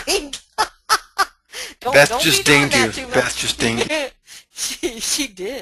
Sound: laughs

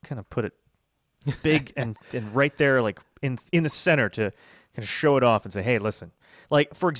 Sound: laughs

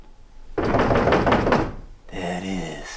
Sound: knock on door

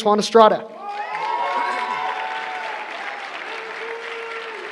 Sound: applause

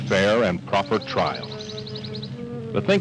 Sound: birds chirping

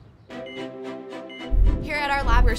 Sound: beeping

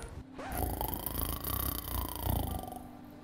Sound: Bill the Anole's Snoring

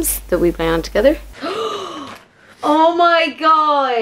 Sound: gasps

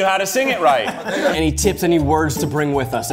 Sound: joyous laughter

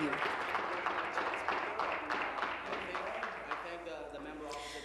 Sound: applause

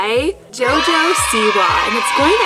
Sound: children cheering

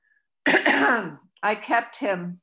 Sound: clears throat

